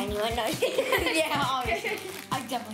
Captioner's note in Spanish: risas